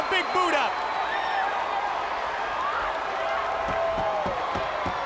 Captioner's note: crowd cheers